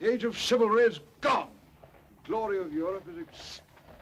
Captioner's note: horses approaching